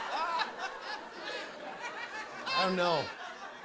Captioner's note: laughter